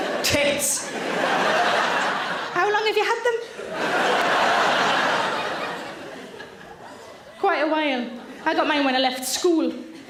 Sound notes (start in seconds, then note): 0.0 audience laughs